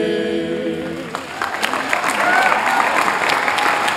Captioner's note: applause